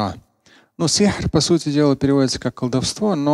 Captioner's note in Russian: Говорит на арабском